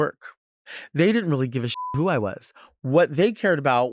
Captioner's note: beep